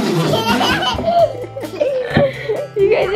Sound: blowing raspberry; laughing

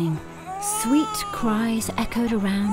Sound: baby crying

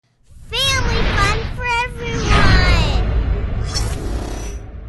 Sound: voiceover

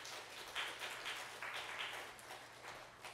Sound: applause

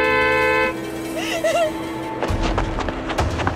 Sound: Amanda crying; moving to dramatic music

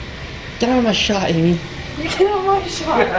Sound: laugh

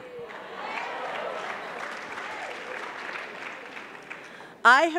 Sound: audience clapping

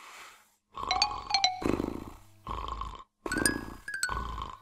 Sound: snoring loudly

